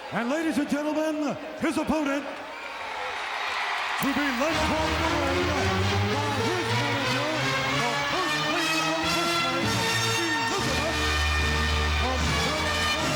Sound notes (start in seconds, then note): 2.6 crowd cheering